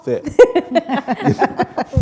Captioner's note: laughter